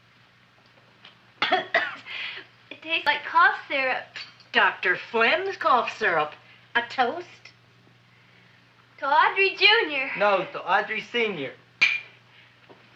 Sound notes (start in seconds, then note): 1.4 coughs